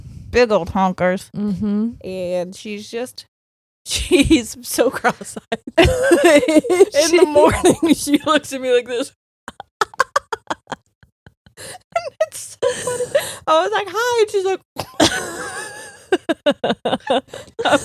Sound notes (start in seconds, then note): 9.5 laughing; 14.8 both laughing